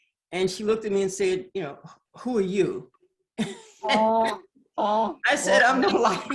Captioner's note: laughs